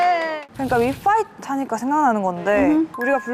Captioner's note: burning